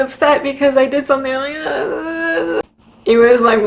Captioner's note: noises of frustration